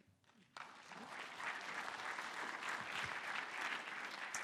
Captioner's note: applause